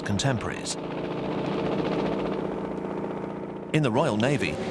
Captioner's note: helicopter whirring